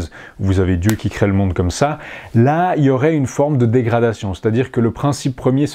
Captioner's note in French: claque des doigts